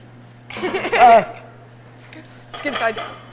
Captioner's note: laughing; student yells